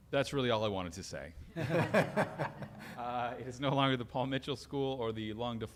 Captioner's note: laughter